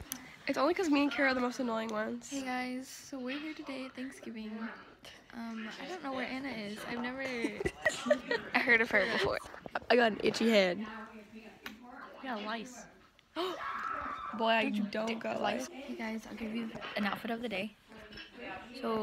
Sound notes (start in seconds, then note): 7.3 laughing; 13.6 gasps